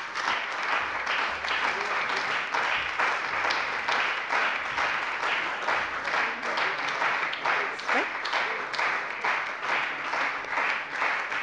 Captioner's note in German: Beifall bei der CDU und dem BÜNDNIS 90/DIE GRÜNEN